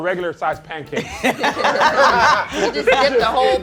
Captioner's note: laughter